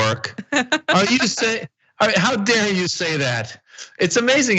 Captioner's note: laugh